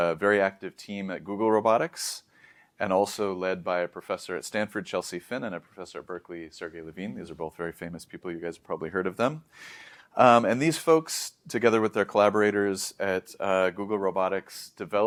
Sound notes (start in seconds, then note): 9.5 inhales deeply